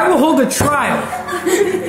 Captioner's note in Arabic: الناس يضحكون